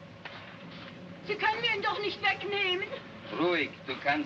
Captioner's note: speaking in German; speaking in Russian